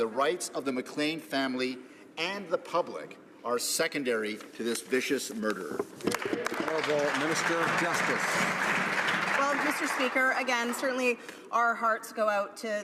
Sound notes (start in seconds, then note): 9.2 some Applause